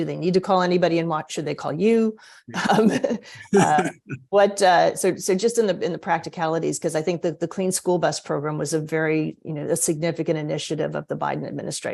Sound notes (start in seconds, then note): 2.6 laughter